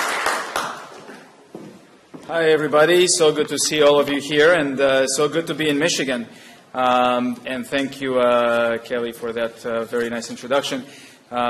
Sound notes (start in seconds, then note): 1.8 applause